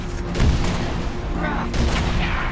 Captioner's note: none